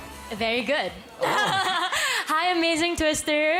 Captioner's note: chuckles